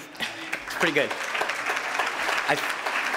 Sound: audience clapping

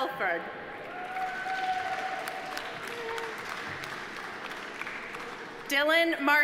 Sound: audience applauding; audience cheering

